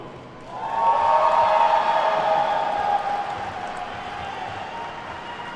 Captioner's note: attendees whooping and clapping